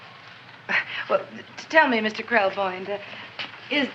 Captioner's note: chuckles